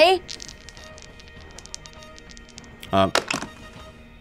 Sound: dice clatter

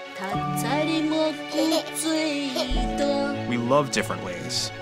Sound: baby laughing

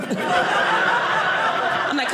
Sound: audience laughing

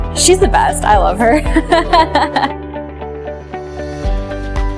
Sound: laughing

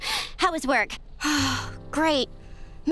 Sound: sighing

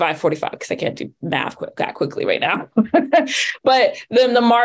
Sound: laughs

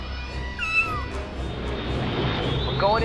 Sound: meow

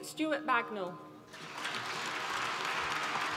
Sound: applause

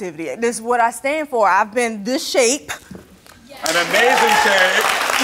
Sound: audience applauds

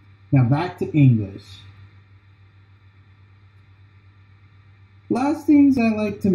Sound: transitioning from taiwanese to english

